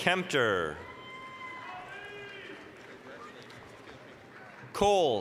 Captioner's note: applause, cheering